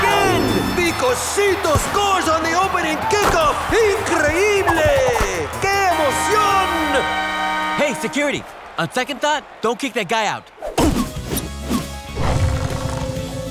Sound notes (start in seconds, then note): 0.2 speaking Spanish